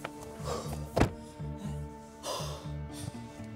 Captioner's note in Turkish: Soluklanma sesi